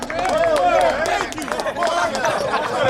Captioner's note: team applauds; players grunt